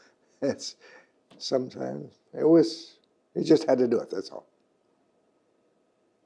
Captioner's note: laughs